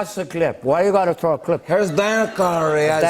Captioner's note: Imitating Tony Montana